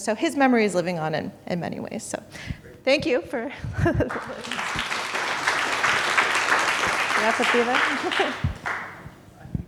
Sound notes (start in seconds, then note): 4.0 audience applauding; 8.7 chuckles